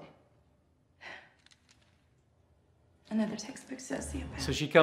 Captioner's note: exhales